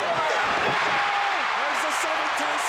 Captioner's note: crowd cheers